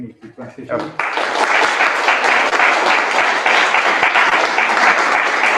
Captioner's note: applause